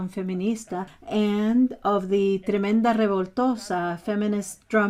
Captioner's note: speaking foreign language